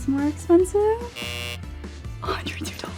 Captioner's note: buzzer buzzes